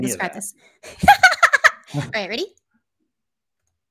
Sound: laughs

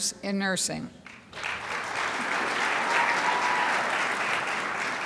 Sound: crowd applauds

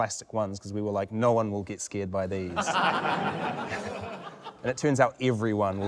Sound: laughter

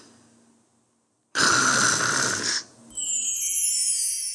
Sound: puppy snoring

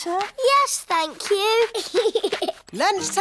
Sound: giggles

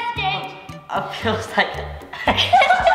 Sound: laughs

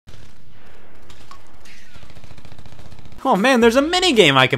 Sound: gunshots firing

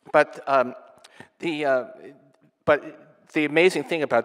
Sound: none

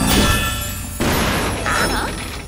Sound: engine sputtering

